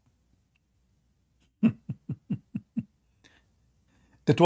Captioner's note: Ketawa